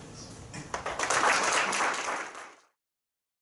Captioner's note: crowd applauding